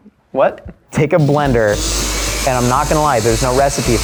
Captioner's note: blender whirring